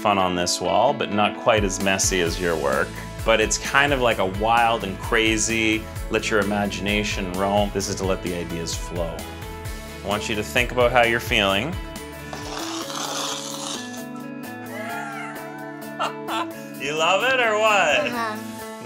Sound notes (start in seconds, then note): 12.3 chalkboard scratches; 15.9 laughs